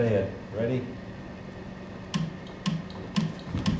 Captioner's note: clicks